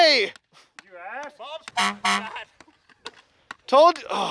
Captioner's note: honk honk